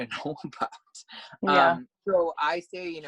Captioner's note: laugh